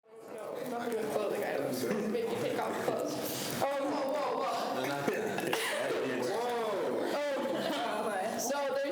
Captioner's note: students chatter